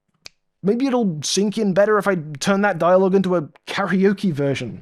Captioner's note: snap fingers